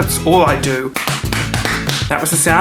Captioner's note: clapping